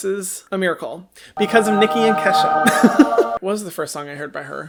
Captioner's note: laughs